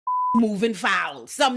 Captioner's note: beep